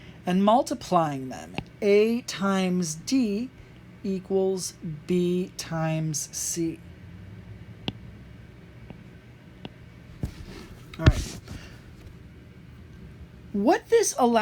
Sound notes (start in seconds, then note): 7.0 writing